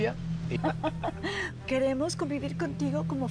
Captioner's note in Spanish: Leonor ríe